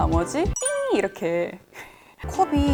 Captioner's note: beep